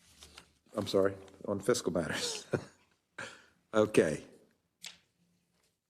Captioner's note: laugh